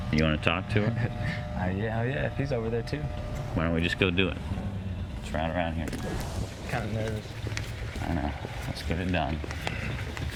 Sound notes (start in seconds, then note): 0.8 chuckles